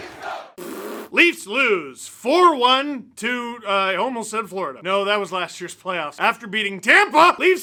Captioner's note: fart noise